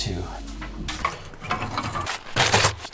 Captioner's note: paper flaps; door opening; paper crinkles; wood chafing